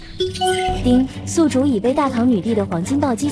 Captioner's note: ding!